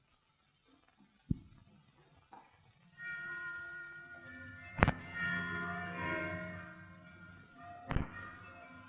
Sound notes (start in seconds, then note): 2.9 bells chiming